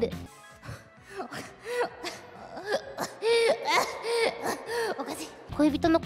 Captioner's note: coughing like her life is on the line